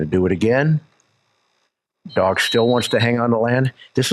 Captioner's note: whistle blows